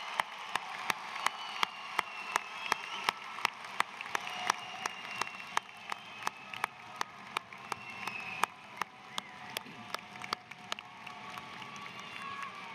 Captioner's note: cheers and applause